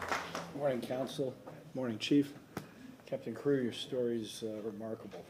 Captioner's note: applause